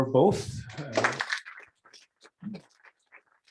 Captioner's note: applause